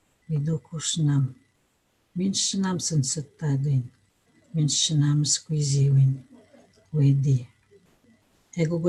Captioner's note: foreign language